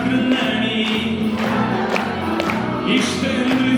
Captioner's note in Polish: publiczność